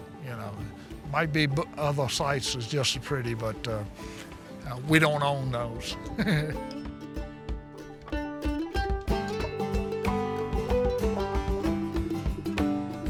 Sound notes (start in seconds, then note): 6.0 laughs; 7.1 bright folk music